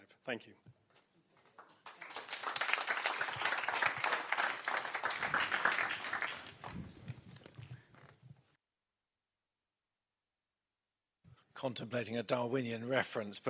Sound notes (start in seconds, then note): 3.6 audience claps